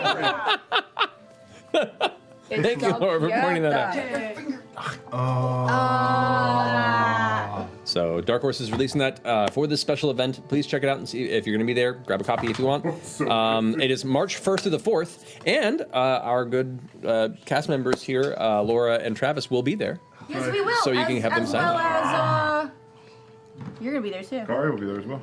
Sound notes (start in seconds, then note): 0.0 laughing; 4.2 exclamations of awe